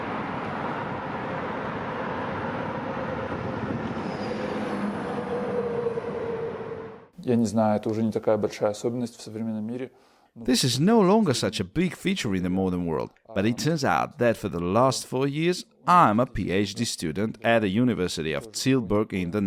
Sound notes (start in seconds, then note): 0.0 noise of the street